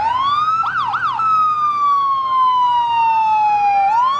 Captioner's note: sirens